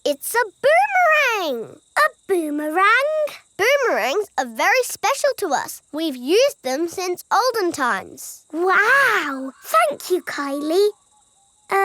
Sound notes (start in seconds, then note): none